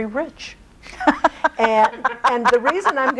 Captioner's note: laughing